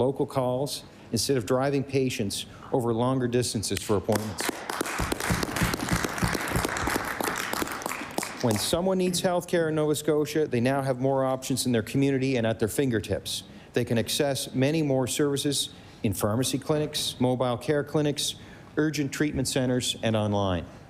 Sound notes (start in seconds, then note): 7.9 applause